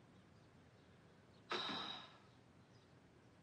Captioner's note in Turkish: Rukiye nefes verir